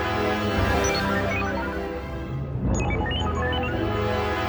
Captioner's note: mechanical bleeping